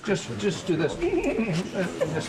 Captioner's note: jackson whinnies